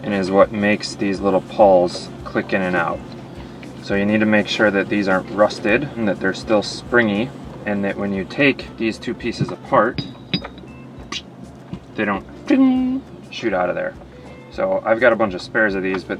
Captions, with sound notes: and is what makes these little palls click in and out. So you need to make sure that these aren't rusted and that they're still springy. And that when you take these two pieces apart, they don't (mimics spring) shoot out of there. So I've got a bunch of spares of these,